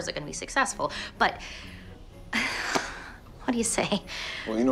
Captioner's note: sighs